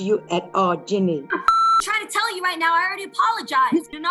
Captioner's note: beep